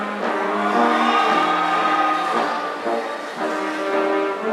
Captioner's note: audience cheering